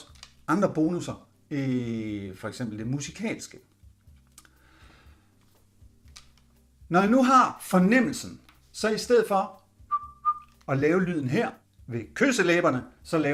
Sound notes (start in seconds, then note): 9.9 whistle